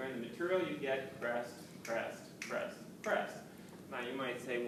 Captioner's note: fingersnapping